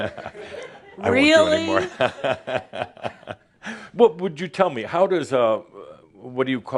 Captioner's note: Adamus chuckles